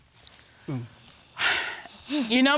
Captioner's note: sighs